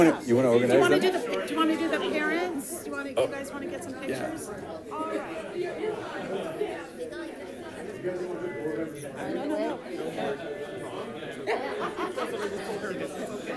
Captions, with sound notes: - You wanna organize them ? - Do you wanna do the parents? Do you guys wanna get some pictures, all right? (background chatter)